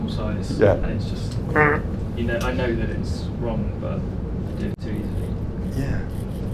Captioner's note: imitates buzzer